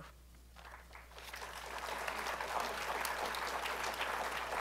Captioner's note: applause